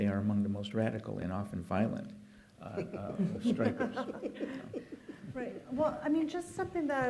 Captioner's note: laughter